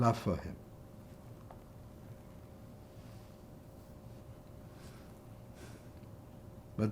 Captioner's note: pauses 6 seconds